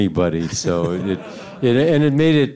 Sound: audience laughing

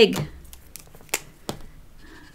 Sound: marker cap clicks

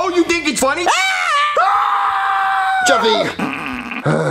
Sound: screaming; holding back laughter

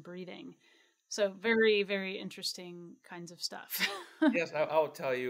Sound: chuckles

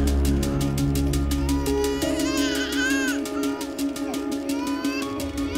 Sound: baby continues crying

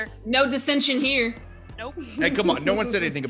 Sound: laugh

